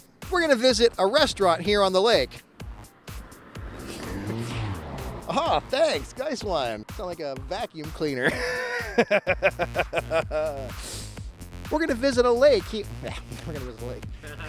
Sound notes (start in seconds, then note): 4.3 vehicle revving; 8.1 laughing